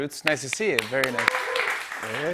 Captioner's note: cheers and applause